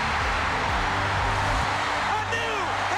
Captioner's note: crowd cheers